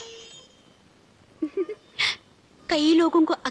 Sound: chuckles

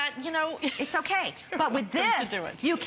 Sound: laughter

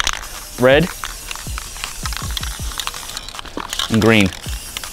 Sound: spray can clicking

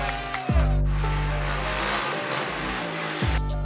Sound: cheering; motorbike noises; heavy bass

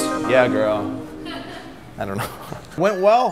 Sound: woman laughing

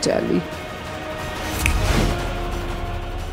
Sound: snaps

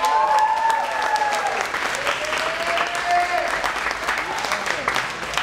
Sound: cheering and applauding

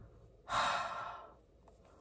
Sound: sigh

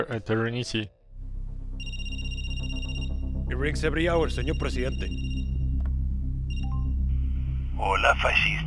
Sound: phone rings

